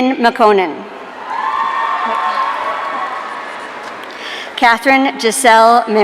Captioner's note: audience cheering